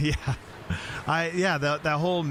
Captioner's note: chuckling